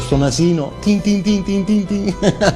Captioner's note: laughs